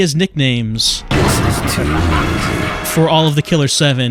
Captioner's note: gunshot, crazed laughter